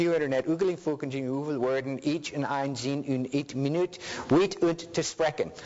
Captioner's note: speaking foreign language